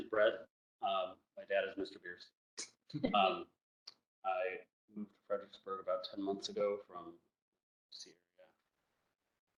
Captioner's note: low voice